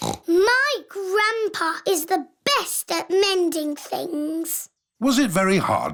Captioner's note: snorts